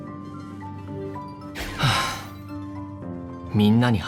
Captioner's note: sigh